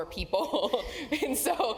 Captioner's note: laugh